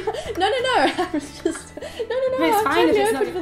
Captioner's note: laughs